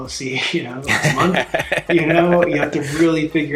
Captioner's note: laughing